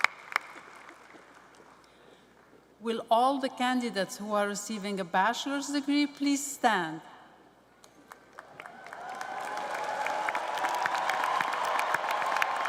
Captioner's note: applause